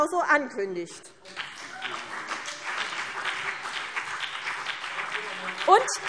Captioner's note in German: Beifall CDU und BÜNDNIS 90/DIE GRÜNEN